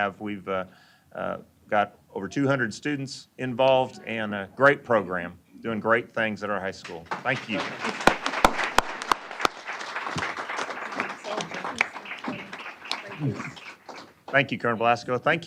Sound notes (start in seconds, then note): 6.8 applause